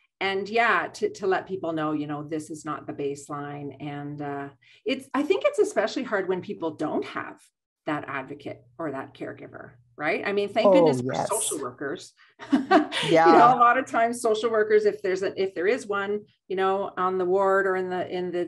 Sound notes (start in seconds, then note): 10.6 laughs